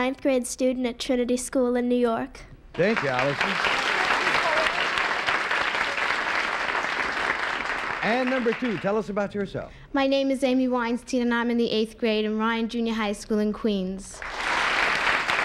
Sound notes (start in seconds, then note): 5.8 applause